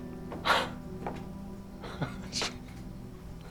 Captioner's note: chuckles